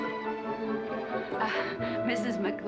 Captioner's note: nervous laugh